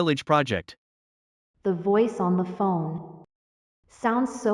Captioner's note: the voice on the phone